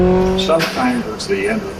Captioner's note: track Sounds